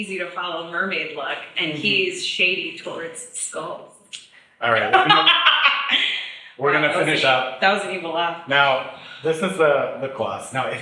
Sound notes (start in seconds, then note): 4.6 laughs